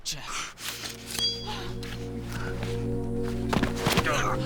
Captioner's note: grunting